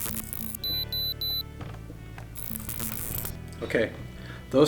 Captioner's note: detector beeps